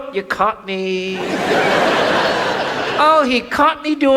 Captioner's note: audience laughs